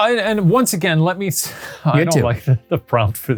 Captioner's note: chuckles